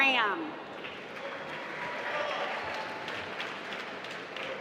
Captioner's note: applause